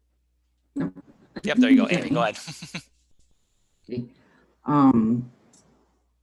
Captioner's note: chuckling